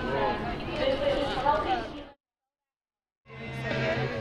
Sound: pause

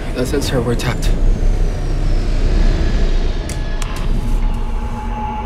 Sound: engines whir

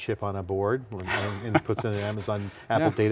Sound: laughs

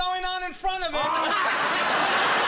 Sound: laughs

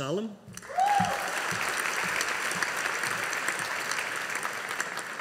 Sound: audience applauding

